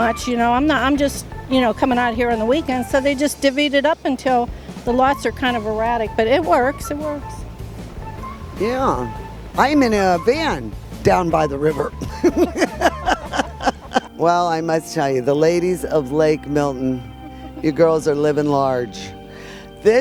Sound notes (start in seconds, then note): 12.0 laughter